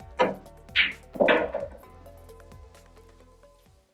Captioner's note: balls clanging